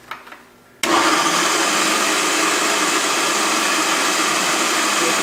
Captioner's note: loud food processor noise